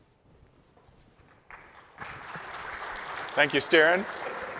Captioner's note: applause